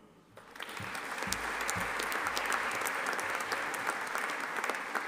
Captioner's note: audience applauding